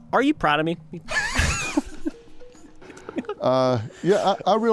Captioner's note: all laughing